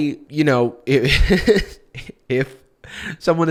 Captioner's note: chuckles